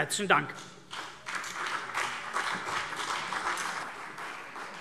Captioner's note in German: Beifall CDU und BÜNDNIS 90/DIE GRÜNEN